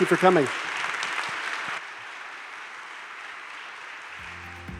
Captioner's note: crowd applauding